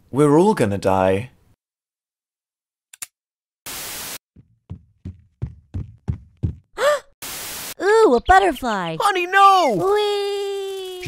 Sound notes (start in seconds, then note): 6.8 gasp